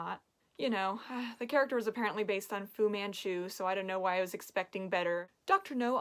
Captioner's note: sigh